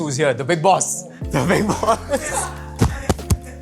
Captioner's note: laughing